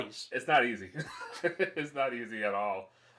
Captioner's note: laughs